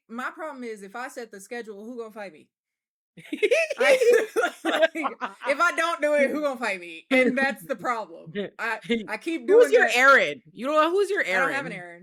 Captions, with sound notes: My problem is, if I set the schedule, who's gonna fight me? (laughing) If I don't do it, who's gonna fight me? And that's the problem. I keep going through it. Who's your Aaron? You don't know who's your Aaron? I don't have an Aaron.